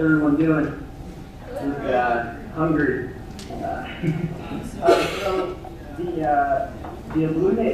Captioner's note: laugh